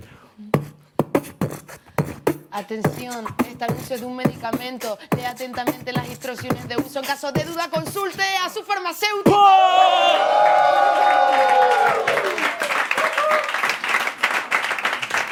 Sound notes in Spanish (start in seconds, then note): 0.5 marca ritmo; 9.3 Vítores; 10.1 Aplausos